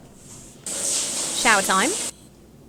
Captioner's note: water trickles